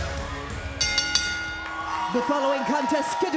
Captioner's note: bell dinging